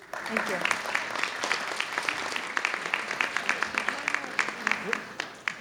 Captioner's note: audience clapping